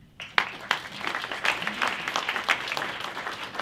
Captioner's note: applause